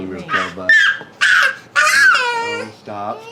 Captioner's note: crying